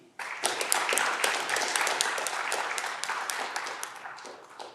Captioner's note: audience clapping